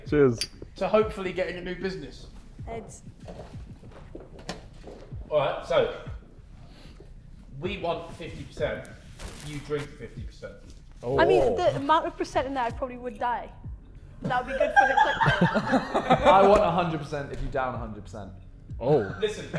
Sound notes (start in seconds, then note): 11.1 Sidemen exclaiming; 14.4 Sidemen laughing